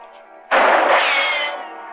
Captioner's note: gunshot